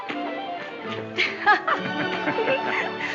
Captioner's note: both laughing